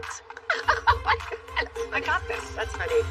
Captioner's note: laughs